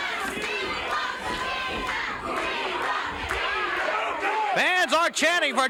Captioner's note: crowd chants "We want Nikita"